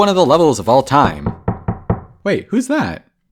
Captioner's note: knocking